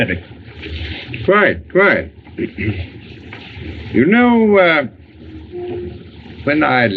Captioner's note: clears Throat